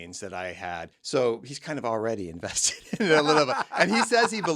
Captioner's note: chuckles